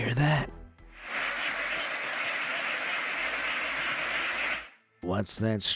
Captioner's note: flock of ducks quacking and flapping